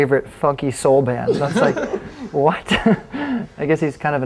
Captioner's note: band laughs